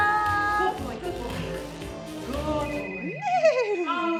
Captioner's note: phone rings